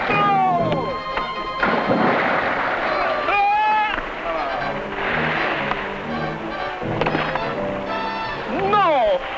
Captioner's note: shriek; trumpeting